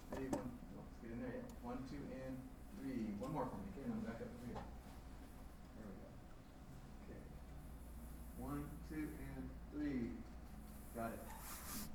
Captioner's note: background conversations